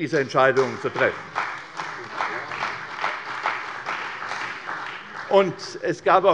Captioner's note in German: Beifall bei der CDU